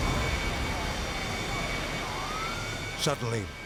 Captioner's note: fire roaring